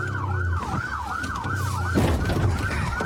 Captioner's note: bangs